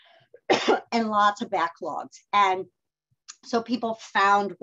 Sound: coughs

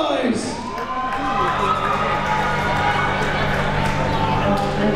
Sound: crowd members cheering

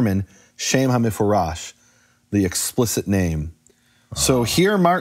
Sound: speaking in foreign language

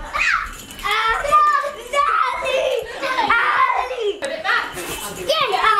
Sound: children shouting indistinctly

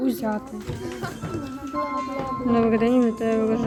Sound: noises of the train station

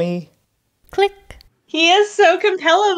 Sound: click

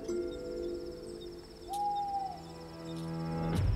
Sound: owl hoots

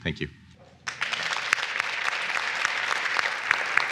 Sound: applause

